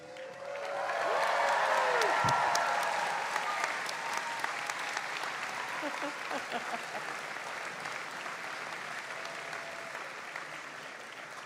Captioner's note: cheers and applause